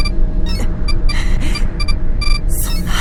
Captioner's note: bated breath